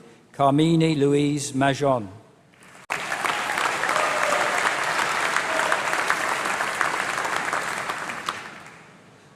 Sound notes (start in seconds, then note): 2.6 applause